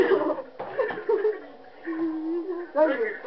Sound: laughing

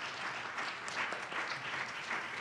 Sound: audience applauds

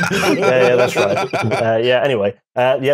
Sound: laughter

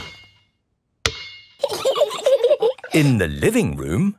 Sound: giggling

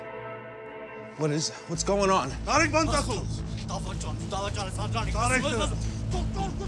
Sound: men speaking in foreign language; Zhozef shouting in foreign language

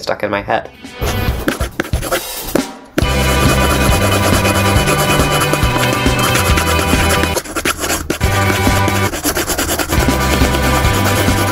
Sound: sounds of scribbling

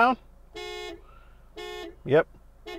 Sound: horn blasting

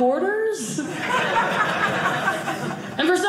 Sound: audience laughing

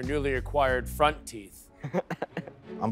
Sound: chuckles

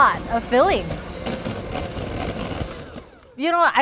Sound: beaters beating

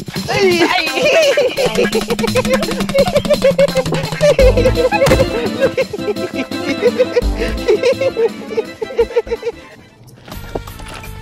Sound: laughing

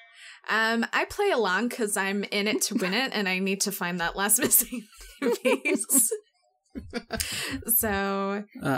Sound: laughs

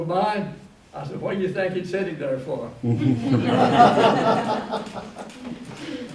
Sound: laughter

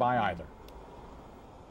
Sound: traffic

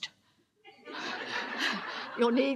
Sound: audience laughs

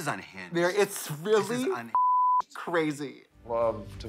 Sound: beep

